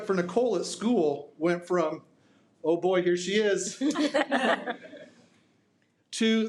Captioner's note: laughs